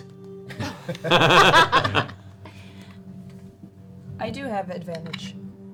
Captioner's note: all laugh